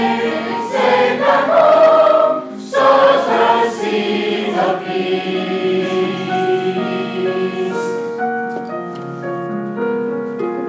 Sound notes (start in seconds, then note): 4.8 people chatter indistinctly; 4.8 piano continues